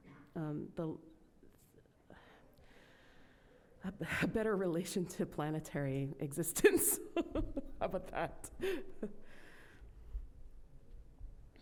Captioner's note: laughs